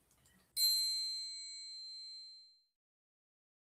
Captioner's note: bell dings